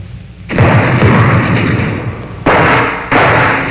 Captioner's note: guns firing